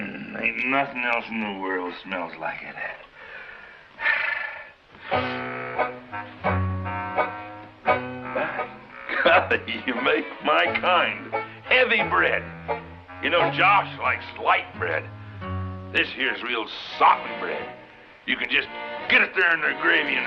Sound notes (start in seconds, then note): 5.0 sighs; 5.3 whimsical music